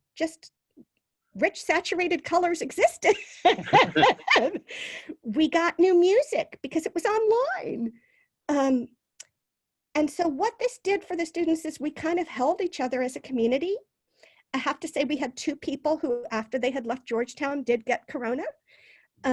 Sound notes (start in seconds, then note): 3.1 both laugh